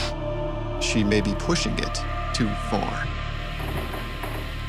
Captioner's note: voiceover